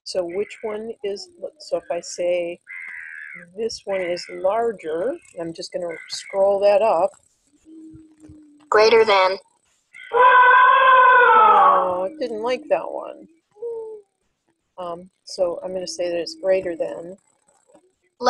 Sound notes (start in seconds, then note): 9.1 voiceover; 10.0 elephant trumpeting